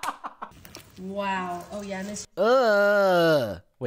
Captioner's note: cackles